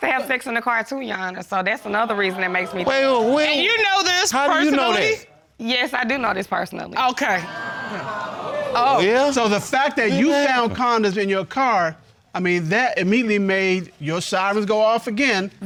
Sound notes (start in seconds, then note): 7.4 audience exclaiming